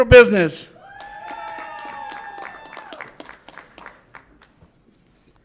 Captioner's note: audience applauds and cheers